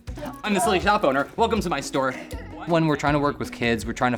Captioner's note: child giggling